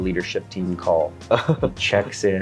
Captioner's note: laughs